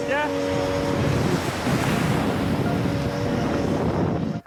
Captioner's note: waves roaring